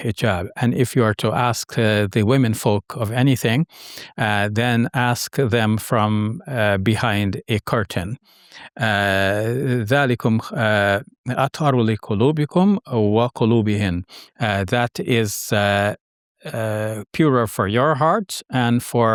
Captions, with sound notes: "And if you are to ask the womenfolk of anything, then ask them from behind a curtain." (speaking Arabic) "That is purer for your heart and for their heart."